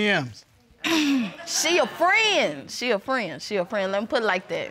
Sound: clears throat

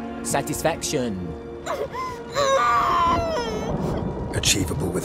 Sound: muffled cry

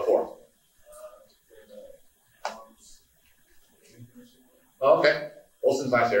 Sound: someone speaking off mic

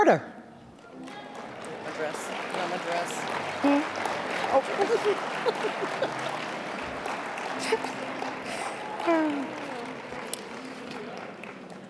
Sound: applause

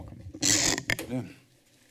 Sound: creaking sound

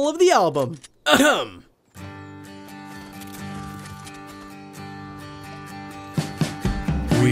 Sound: clears throat; guitar plucking

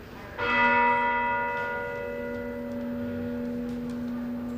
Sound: bell dinging

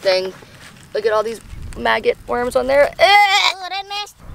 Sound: gags

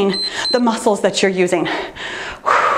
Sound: timer beeps; exhales

